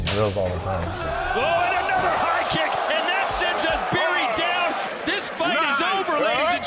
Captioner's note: audience shouting; announcer speaking